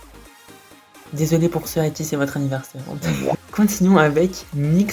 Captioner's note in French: haha